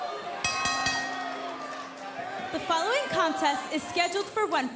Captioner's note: bell ringing